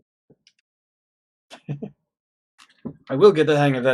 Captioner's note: chuckles